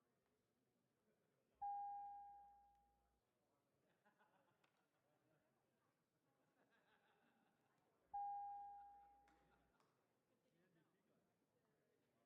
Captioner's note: bell Ringing